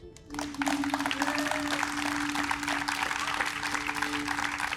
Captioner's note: audience applauds